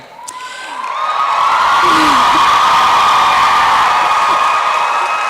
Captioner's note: applause and cheering